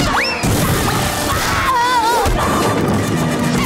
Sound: screaming

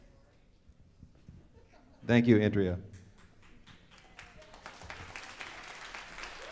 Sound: audience applauds

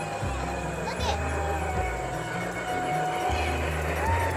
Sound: train whistle; chugging engines; children exclaiming

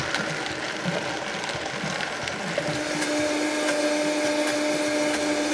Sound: blender whizzing

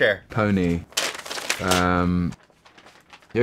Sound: paper rustles

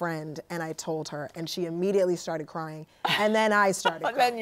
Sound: laughs

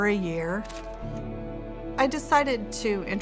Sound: picture clicks

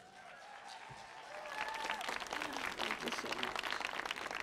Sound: audience cheers

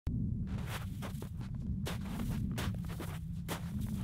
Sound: snow crunches

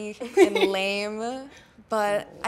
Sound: laughs

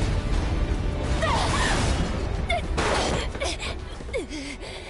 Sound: wounded noises

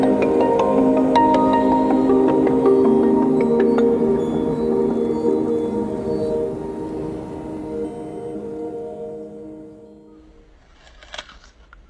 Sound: crunching, chewing sounds

